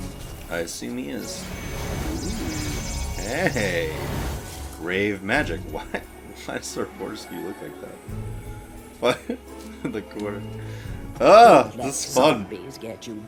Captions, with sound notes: I see me is. Ooooh. Heeeey. Grave magic, what? Why does Sir Fortesque look like that? What? *laughs* In the corner. Ah, this is fun!